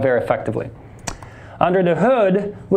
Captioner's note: key tapping